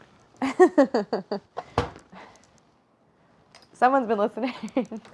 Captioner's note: Claire chuckles